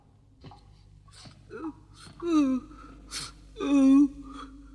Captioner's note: Toad sobs